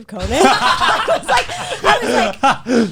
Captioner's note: all laughing